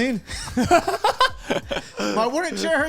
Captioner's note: laugh